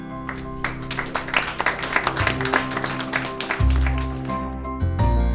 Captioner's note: applause